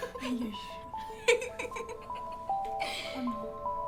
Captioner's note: both giggling